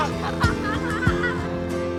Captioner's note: boys laugh